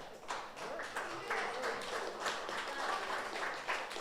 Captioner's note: audience applauds